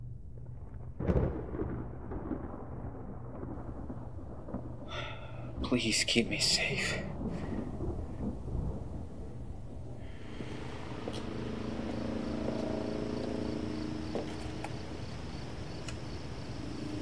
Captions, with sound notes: (thunder rumbling) - Please, keep me safe. (crickets chirping)